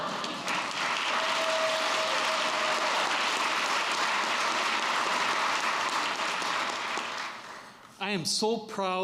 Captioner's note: applause